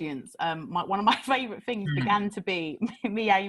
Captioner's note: laughs